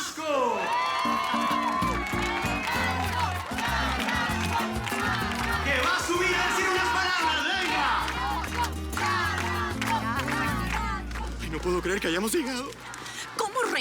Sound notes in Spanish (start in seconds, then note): 0.9 Arengas del público; 9.8 Arengas del público